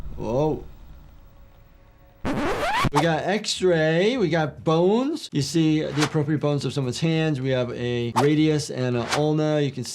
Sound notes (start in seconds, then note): 2.2 video scratches